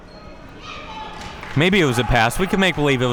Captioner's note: audience applauding